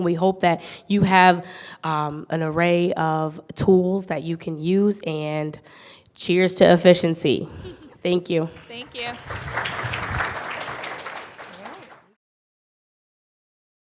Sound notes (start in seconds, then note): 8.3 applause